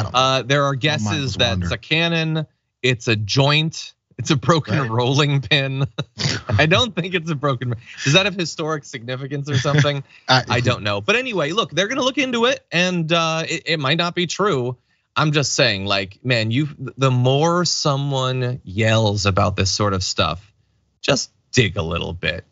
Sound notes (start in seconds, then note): 4.6 laugh